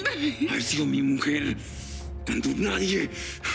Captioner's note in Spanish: sollozos